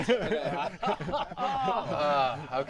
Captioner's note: laughter